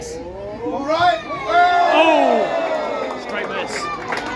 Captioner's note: cheers; applause